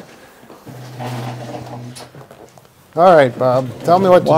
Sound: moves chair across floor

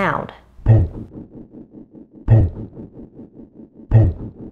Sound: thumping sound

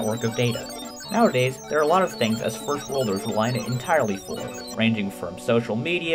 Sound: computer sounds

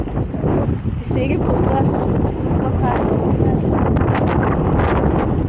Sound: strong wind

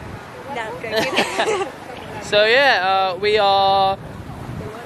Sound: laughing

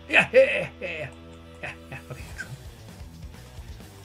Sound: phew

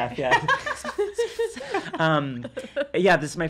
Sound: laughing

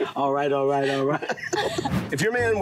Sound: Kevin laughs

